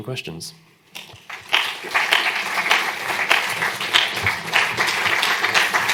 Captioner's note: applause